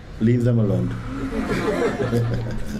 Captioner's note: laughter